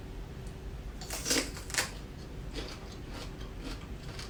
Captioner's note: celery crunching